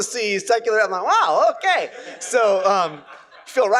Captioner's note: laughter